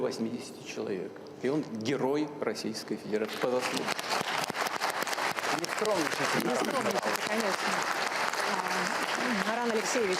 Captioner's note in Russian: Аплодисменты